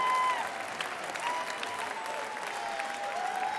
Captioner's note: applause